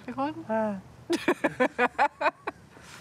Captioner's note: laughs